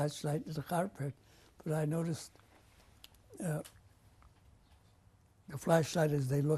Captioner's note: pauses for 3 seconds